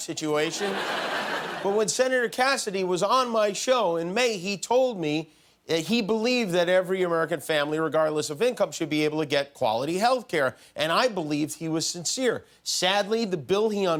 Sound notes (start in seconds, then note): 2.5 laughter